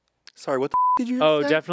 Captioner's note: beep